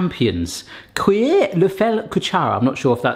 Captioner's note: reads in foreign language